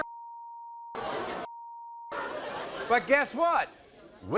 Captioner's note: beep